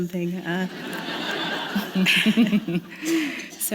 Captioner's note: laughter